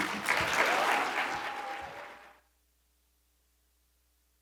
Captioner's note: audience clapping